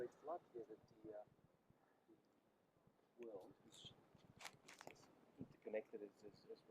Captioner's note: speaks faintly